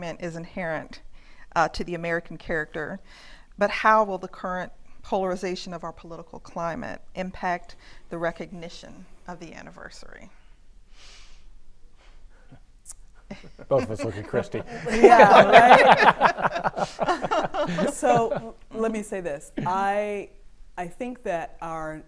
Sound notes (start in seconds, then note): 15.7 panelists laughing